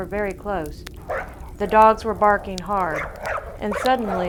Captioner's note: dogs barking